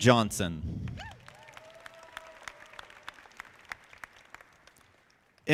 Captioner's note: audience clapping